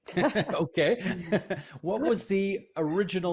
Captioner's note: laughter